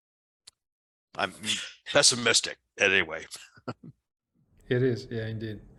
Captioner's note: chuckles